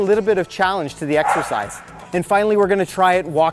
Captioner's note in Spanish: el perro ladra